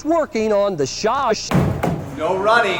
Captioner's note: loud stomping